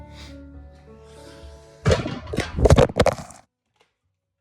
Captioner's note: banging